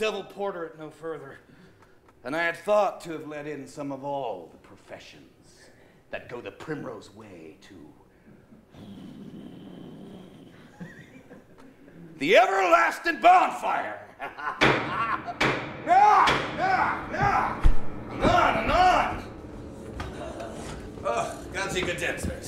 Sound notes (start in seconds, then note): 15.7 knocking